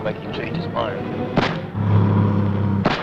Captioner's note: gunshot